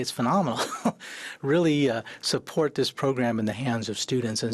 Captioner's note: he chuckles